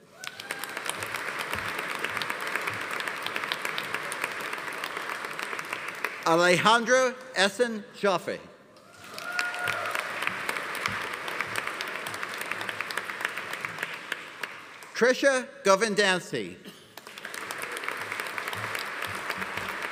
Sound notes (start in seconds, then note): 0.0 audience applauding; 0.0 audience cheering; 8.9 audience cheering; 8.9 audience applauding; 16.8 audience applauding